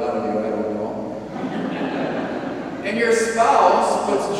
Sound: congregation laughs

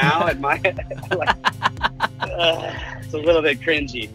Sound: laughs; groan

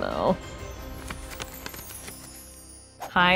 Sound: gently chiming bells

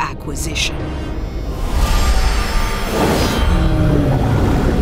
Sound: humming

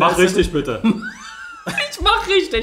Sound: laughs

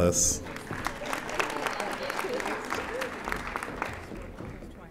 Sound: audience applauding

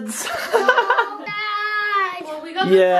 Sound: laughing

